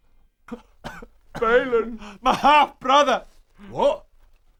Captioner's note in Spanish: Llorando